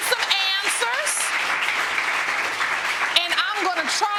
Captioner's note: audience applauding